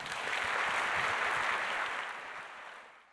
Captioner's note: applause